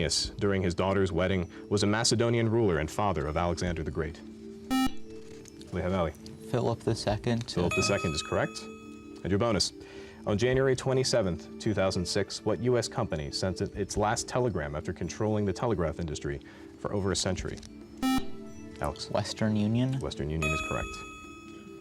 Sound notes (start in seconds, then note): 4.7 buzzer; 18.0 buzzer